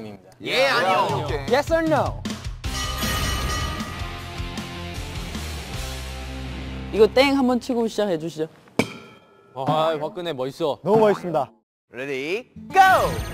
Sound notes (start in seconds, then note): 8.9 ding